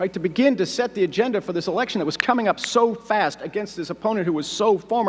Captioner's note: none